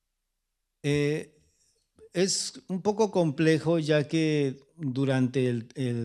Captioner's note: speaking spanish